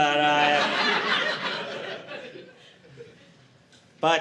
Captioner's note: audience laughing